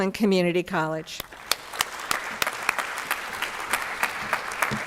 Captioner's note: applause